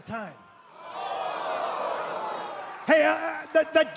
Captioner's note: crowd cheering